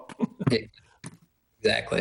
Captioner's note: laughs